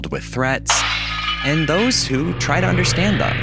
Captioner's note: explosion